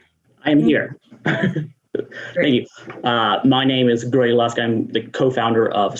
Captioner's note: laughs